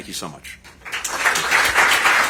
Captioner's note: applause